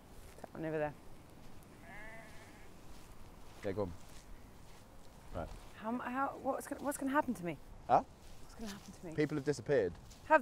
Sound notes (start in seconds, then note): 1.8 sheep bleating